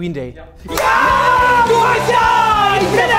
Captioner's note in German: Jubel; Rockige Musik